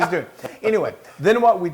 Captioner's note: laugh